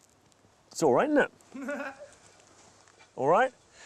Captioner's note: laughs